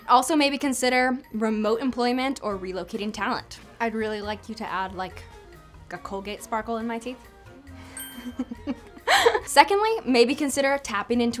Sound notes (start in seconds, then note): 8.0 tooth dings; 9.0 laughs